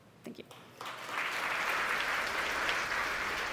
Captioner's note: audience applauds